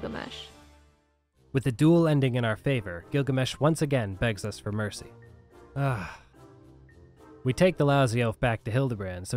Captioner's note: sigh